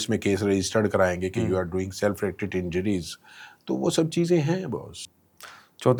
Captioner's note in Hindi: गला साफ़ करने की आवाज़